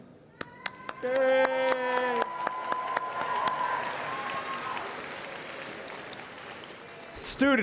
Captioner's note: cheering and Applause